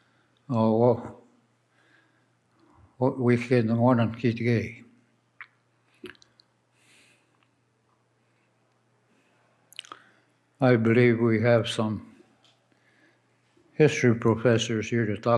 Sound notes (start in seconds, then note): 5.7 speaks in Ojibwe